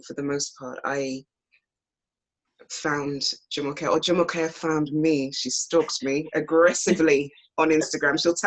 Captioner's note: off screen laughter